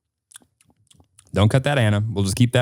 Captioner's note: clicks